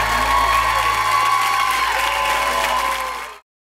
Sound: applause

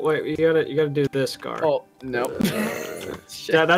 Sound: laughs

